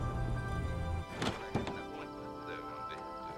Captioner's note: door creaks open